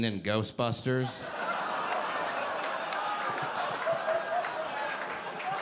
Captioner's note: audience laughing